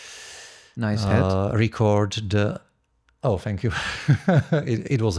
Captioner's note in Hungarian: nevetés